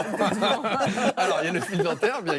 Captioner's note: laughter